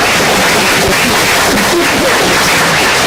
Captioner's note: applause